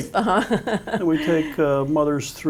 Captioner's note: laughs